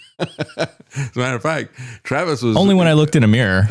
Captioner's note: laughing